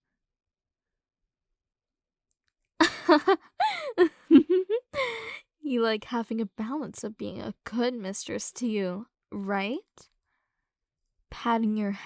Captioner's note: soft laugh